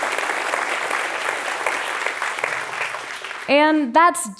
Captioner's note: applause